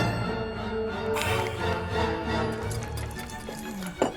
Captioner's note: cynthia grunts